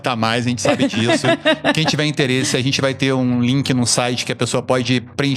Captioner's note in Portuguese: risadas